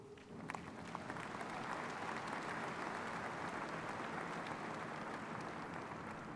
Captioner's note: audience clapping and cheering